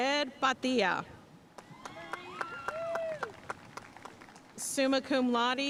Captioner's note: audience cheering and applauding